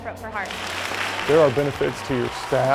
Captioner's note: applause